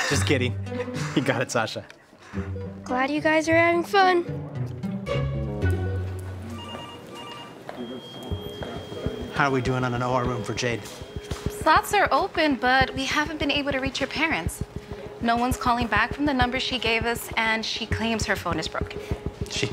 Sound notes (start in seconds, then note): 6.4 phone rings